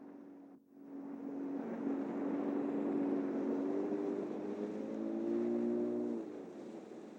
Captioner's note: boat noise